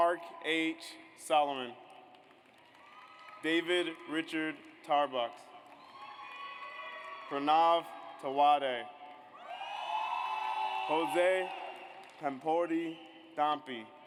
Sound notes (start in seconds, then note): 2.2 audience applauds; 5.6 audience applauds; 9.4 audience cheers